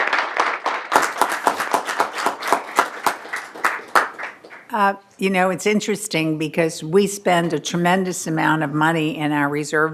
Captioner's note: applause